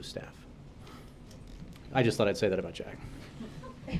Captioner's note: laughter